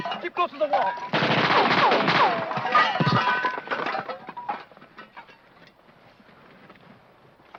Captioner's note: metal clanking; guns firing